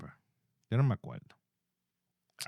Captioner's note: speaking Spanish